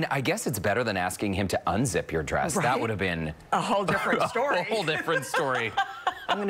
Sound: laughter

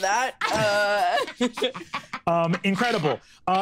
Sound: cackling

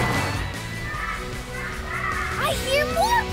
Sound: penguins squawking

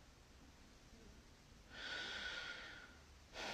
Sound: deep breath

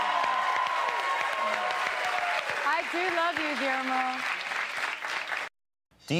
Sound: cheers and applause

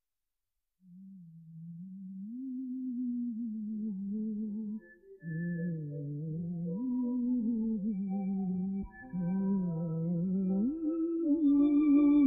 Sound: humming

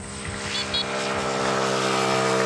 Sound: beep beep

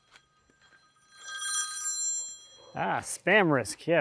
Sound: phone ringing

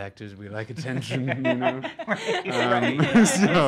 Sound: hosts laugh

